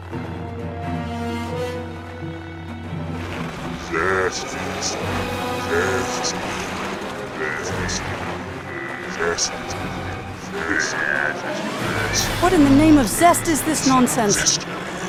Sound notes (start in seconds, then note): 3.9 zesty zombies chanting "zesty" all zestylike with a pinch of zest